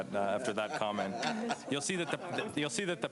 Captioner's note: laughs